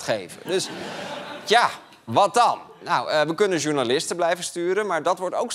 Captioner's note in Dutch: gelach